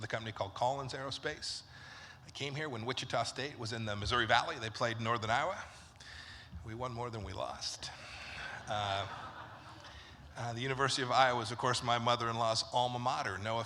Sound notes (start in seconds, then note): 8.3 laughter